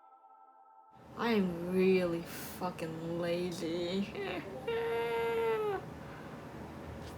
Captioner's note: shitty crying noises